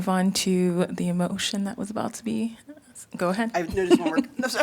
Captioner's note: laughter